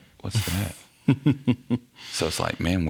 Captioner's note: laughing